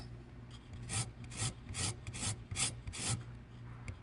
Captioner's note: lime scraping against grater